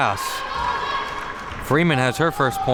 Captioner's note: spectators shouting